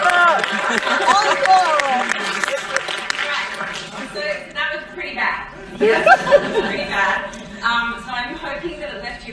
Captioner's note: laughter